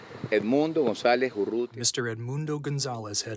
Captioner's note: through translator